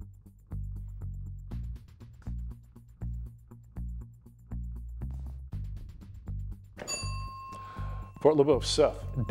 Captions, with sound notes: [bell dings] Fort LeBoeuf, Seth.